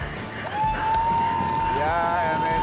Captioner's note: cheering